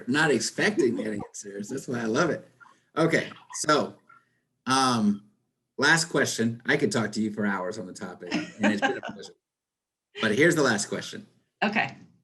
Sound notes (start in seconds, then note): 8.2 chuckles